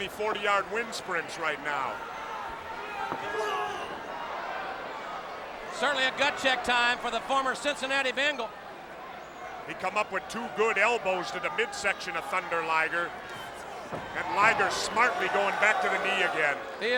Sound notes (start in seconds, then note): 3.0 blows thudding; 3.5 wrestlers grunting